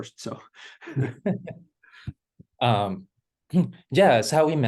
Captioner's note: chuckling